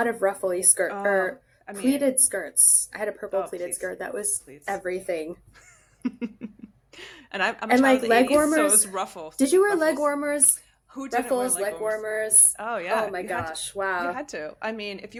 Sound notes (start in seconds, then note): 5.5 laughter